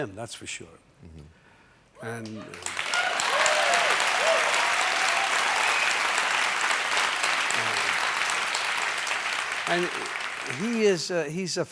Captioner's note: cheers and applause